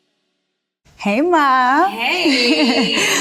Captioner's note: laughs